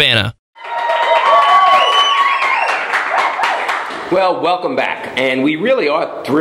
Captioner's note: cheering and applause